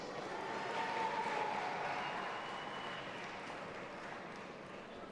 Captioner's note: audience applauding and cheering